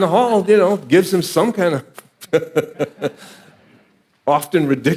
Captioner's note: laughing